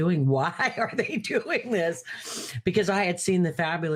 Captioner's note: laughing